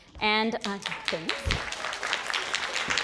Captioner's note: audience applauds